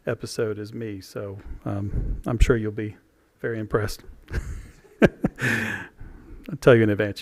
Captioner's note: laughter